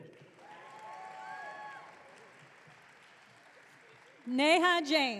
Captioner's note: audience cheering